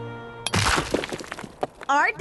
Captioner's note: crack